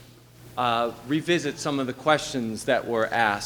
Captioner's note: none